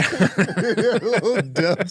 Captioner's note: laughing